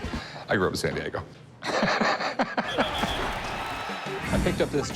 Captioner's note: laughs